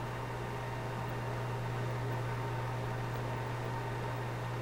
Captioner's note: machine hums